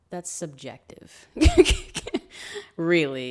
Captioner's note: laughs